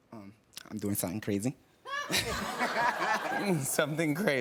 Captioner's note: laughter